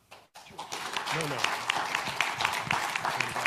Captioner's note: audience applauding